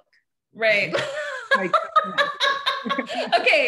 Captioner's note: both laughing